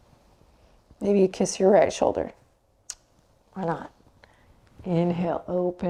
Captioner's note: kisses